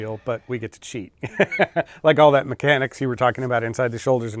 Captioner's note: laughs